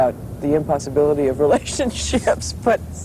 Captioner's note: laughing